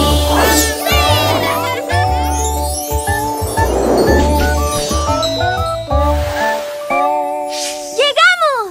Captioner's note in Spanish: Risas